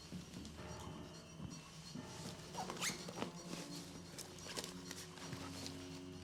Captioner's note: tense music; zipper squeals